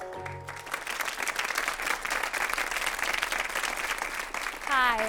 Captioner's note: audience clapping